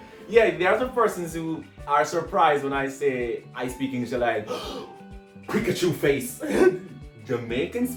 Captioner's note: gasp